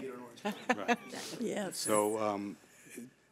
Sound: woman laughing

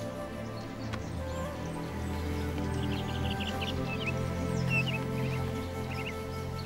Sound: birds chirp; gentle music

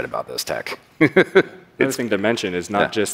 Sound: laughs

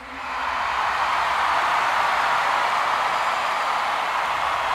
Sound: audience cheering

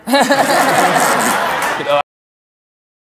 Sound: laughter

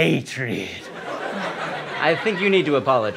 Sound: laughter

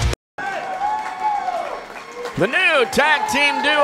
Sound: crowd cheering

